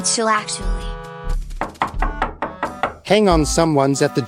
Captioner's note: door Knocking